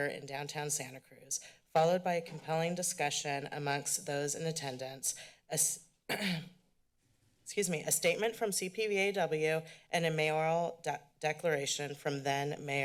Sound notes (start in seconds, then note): 6.1 clears throat